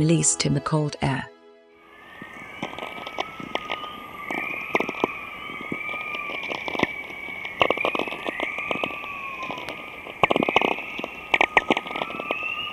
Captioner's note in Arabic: يتم تشغيل صوت الشفق القطبي الآن